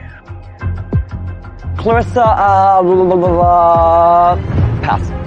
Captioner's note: stutters